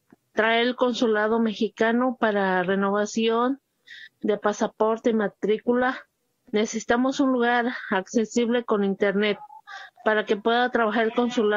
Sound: speaking in foreign language

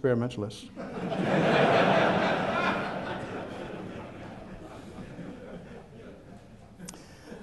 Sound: laughter

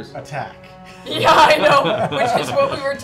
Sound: laughter

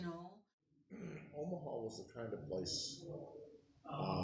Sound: clears throat

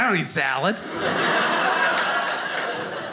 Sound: audience laughing

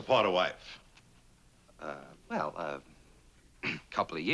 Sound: clears throat

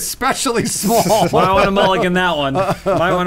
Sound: laughing

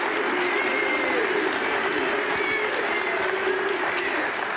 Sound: audience applauding; audience jeering

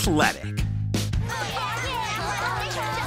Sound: screaming

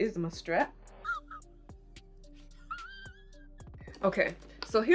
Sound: man wheezing

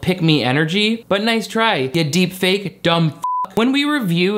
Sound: beep

